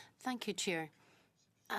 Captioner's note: speaking in French